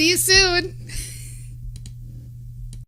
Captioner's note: light laughter